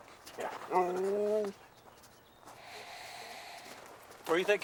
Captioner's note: Buck growls